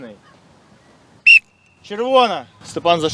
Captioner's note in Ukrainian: звук свистка